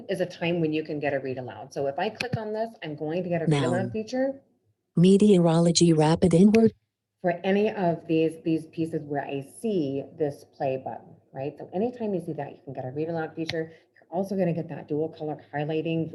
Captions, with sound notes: is a time when you can get a read aloud. So if I click on this, I'm going to get- - [Automated Voice] Noun. - Feature. - [Automated Voice] Meteorology, rapid inward. - For any of these pieces where I see this play button, right? So anytime you see that, you can get a read aloud feature. You're also gonna get that dual color highlighting,